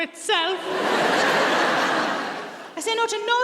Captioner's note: audience laughs